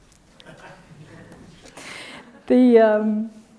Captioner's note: laughter